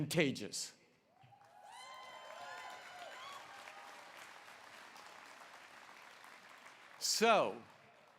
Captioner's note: applause